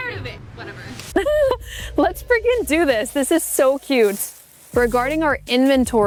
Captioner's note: laughing